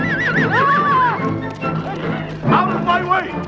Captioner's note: horse neighing; Hundra shouts